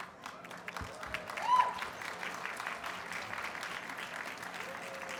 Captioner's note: audience cheers and applauds